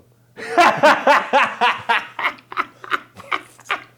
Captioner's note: laughs aloud